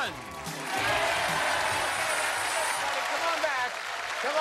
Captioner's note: cheers and applause